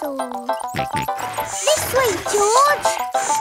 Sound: george snorts

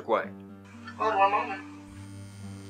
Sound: buzzing; voiceover

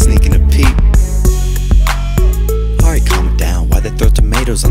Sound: boo

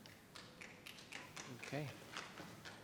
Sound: audience applauding

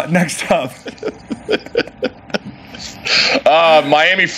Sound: laughs

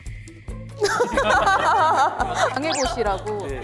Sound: hahaha

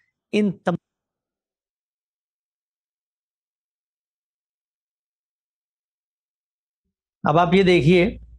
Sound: audio missing

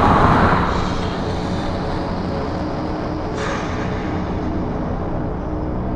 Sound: Darren breathing heavily; ominous music

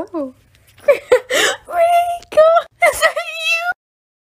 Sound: laughing

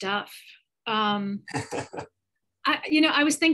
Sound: laughs

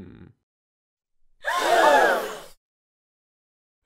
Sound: audience gasps

